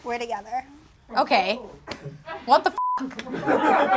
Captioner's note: beep; audience laughs